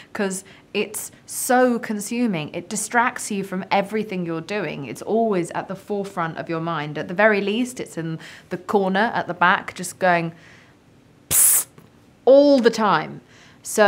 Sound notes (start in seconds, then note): 11.3 psst